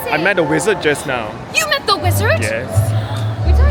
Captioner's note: gasp